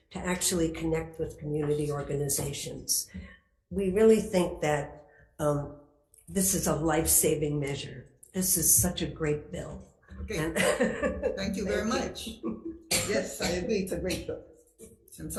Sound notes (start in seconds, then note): 10.4 laughs